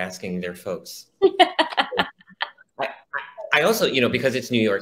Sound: laughs

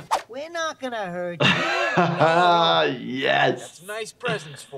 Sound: laughing

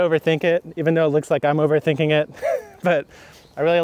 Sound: laughs

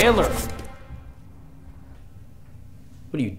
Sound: cassette stops

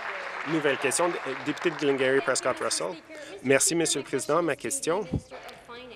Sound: applause

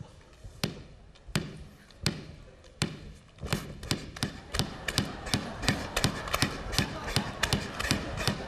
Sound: basketball dribble sound

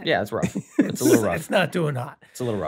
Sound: rob laughs

